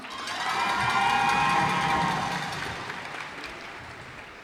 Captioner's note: cheers and applause